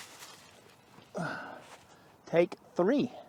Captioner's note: sighs